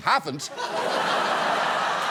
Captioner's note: studio audience laughs